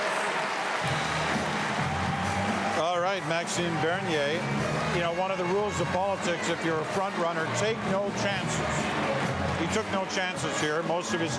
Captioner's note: applause